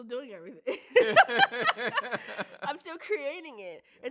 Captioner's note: both laugh out loud